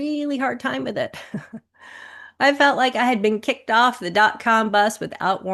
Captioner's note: chuckles